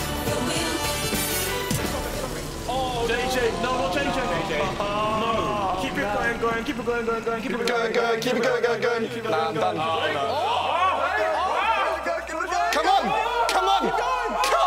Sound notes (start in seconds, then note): 8.8 chattering; 10.9 shouting